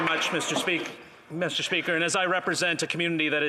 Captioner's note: applause